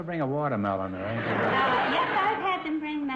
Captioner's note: audience laughter